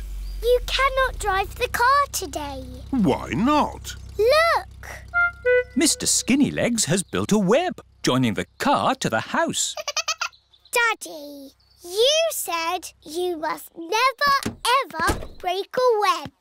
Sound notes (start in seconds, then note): 9.7 giggling